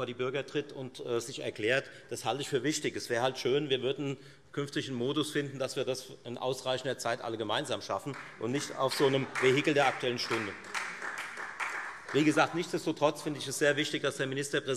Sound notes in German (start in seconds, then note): 10.4 Beifall